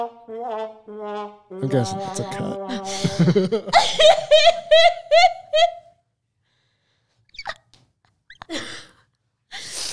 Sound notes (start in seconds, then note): 0.0 dramatic music; 4.4 laughing